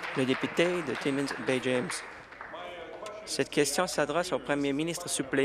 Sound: applause

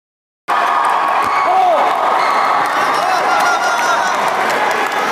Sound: applause

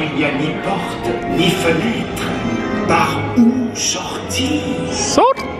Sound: announcer speaks in French

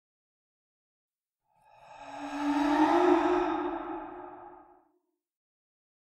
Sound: kid ghost sigh

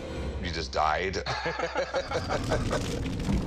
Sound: laughing

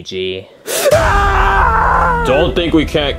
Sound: Luigi yells

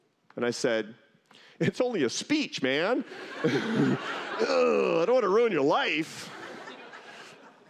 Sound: laughter

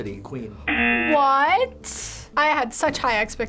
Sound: buzzer rings

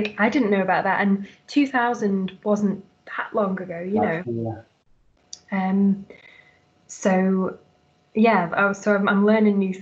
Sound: laughs

